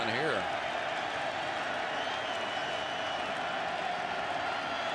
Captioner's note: cheers